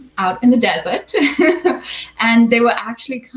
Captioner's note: laughs